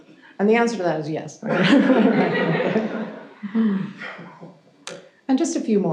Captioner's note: audience chuckles